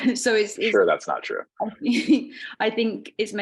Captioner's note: chuckling